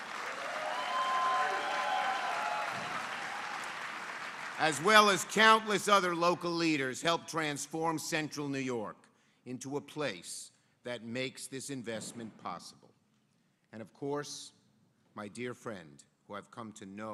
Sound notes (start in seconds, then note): 5.7 applause